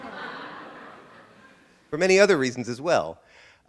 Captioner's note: audience laughter